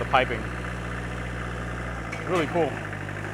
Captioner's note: engine rumbling